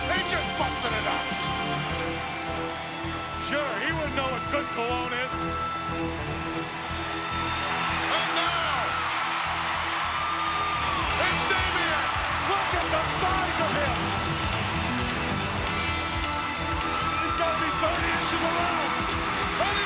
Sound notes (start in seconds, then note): 9.3 crowd cheering